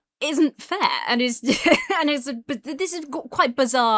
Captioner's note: laughs incredulously